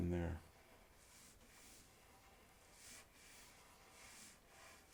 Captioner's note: pencil scratching